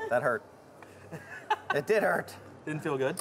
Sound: laughing

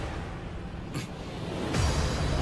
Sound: Aizawa grunts

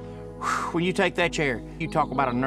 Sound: sighs

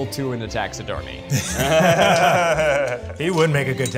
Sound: laughing

